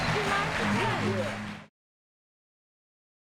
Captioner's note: applause